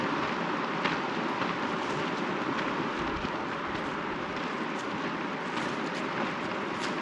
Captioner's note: water rushing